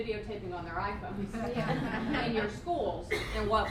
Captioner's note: laughter